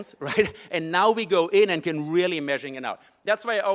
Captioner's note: laugh